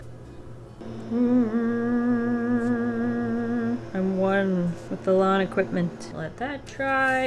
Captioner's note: hums lawn equipment noises